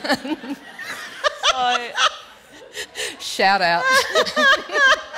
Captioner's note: laughter